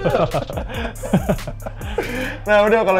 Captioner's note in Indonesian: ketawa